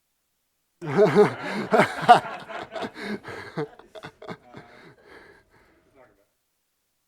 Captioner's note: laughter